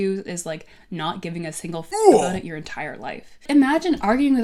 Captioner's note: grunt